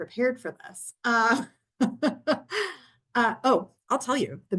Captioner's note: laughs